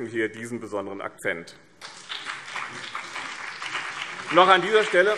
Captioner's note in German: Beifall BÜNDNIS 90/DIE GRÜNEN und CDU